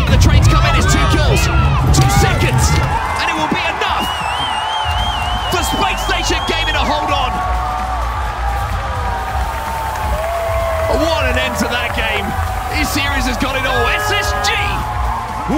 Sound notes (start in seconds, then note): 7.9 people clamoring